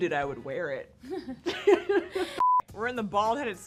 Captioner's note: both laugh